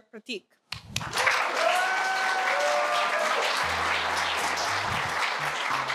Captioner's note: applause